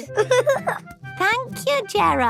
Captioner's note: giggling